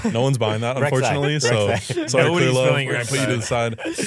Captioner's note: laughs